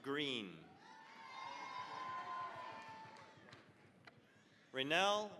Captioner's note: cheering, applause